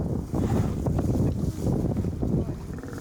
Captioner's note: wind blowing